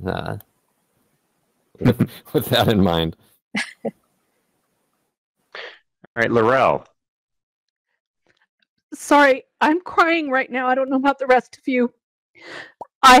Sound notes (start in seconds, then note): 3.6 laughing